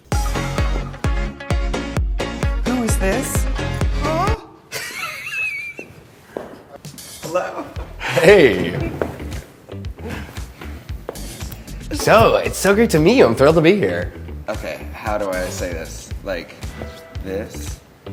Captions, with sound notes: [upbeat music] Who is this? [laughter] Hello. Okay, how do I say this? Like, this?